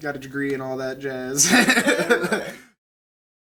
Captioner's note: laughing